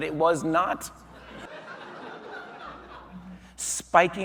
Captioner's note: audience laughing